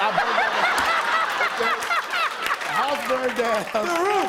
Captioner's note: laughter